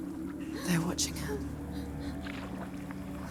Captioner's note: whimper